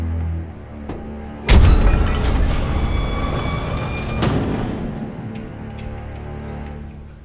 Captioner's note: gates groan open